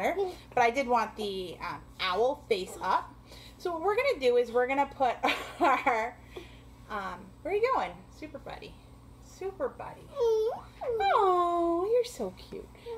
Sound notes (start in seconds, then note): 10.1 child cooing